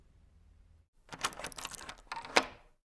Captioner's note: the sound of a lock being opened